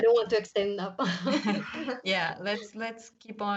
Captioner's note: laughs